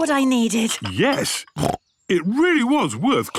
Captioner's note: snorts